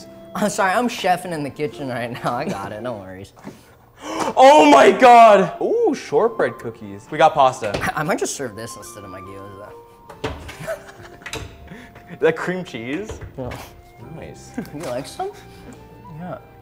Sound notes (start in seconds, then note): 10.5 laughing